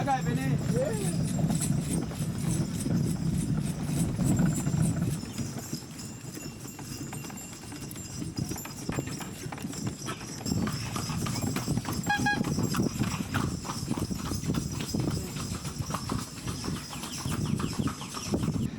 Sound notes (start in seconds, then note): 1.7 winds